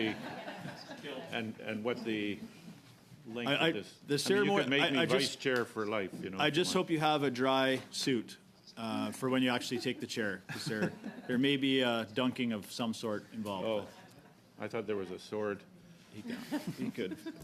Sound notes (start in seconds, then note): 5.8 laughter